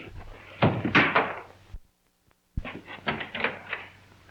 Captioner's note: brush hits wall